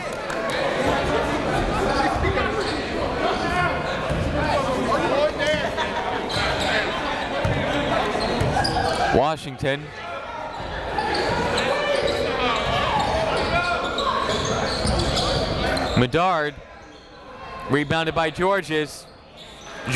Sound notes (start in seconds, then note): 0.2 chatter; 11.5 chatter